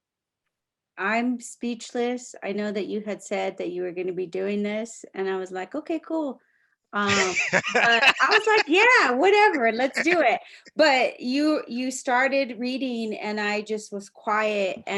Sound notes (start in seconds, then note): 7.0 laughing